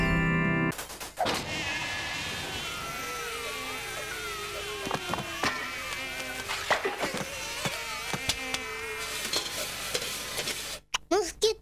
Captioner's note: bewitching music; buzzing